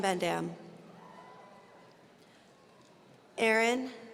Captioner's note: audience cheering